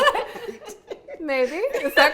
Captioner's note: all laughing